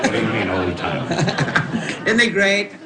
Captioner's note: laughing